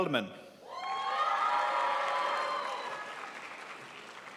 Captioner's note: crowd applauds